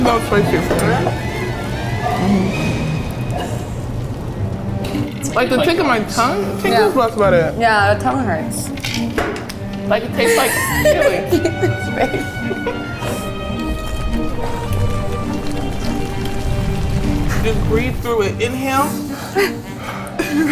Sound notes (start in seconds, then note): 12.4 laughing